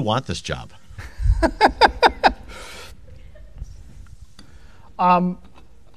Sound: laughs

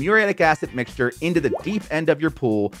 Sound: graphics popping

